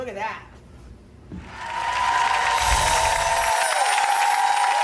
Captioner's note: crowd cheering